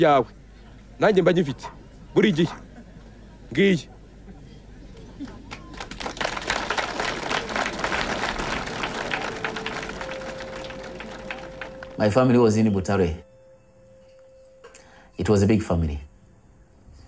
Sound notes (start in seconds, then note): 5.2 applause